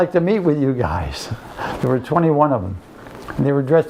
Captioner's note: laughs